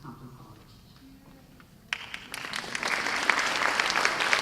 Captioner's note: applause